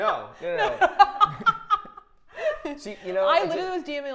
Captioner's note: Safiya laughing loudly